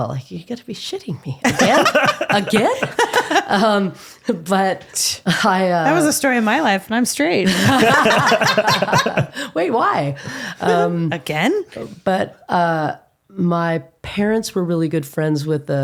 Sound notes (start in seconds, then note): 7.4 laughing